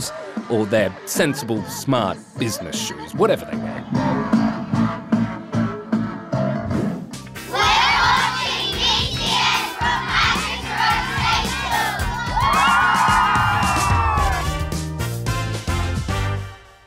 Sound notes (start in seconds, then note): 4.2 energetic music plays; 12.2 all whoop